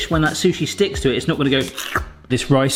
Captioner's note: slurps